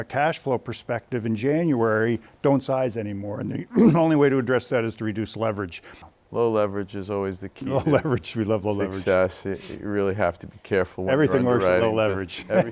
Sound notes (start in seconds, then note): 8.6 laughs